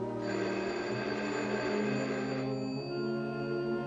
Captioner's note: phone rings